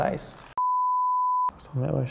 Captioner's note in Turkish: Bozuk ekran sesi